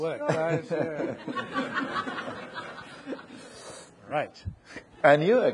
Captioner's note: audience laughing